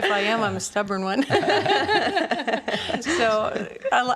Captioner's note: laughing